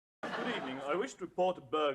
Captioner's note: audience laughs